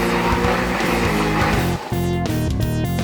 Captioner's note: engine starts & runs; engine shuts off